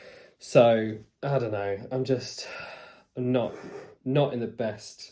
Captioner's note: sighs